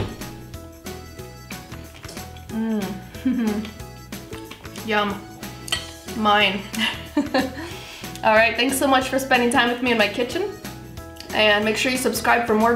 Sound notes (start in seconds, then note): 6.7 laughs